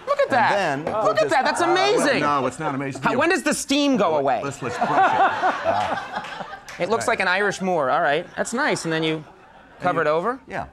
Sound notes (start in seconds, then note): 0.0 crowd exclaims; 4.7 laughs